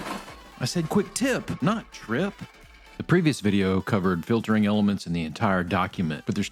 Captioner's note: falling..triping..Big Crash